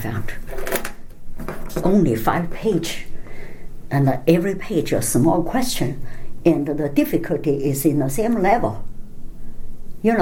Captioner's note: rattling